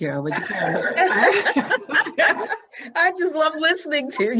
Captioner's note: both laughing